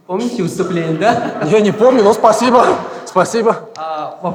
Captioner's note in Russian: смех в зале